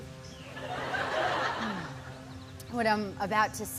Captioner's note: laughter